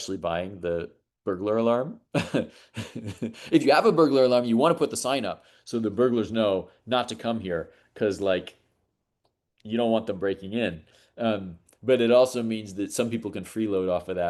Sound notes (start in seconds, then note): 2.1 chuckles